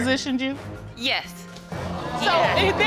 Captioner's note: audience gasping